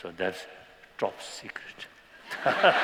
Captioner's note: laughter